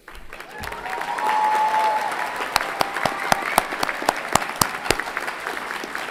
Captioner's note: everyone clapping and cheering